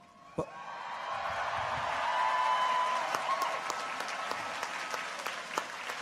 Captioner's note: people cheer; audience applauds